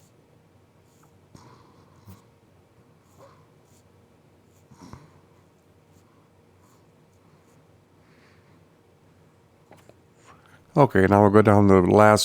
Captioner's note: silence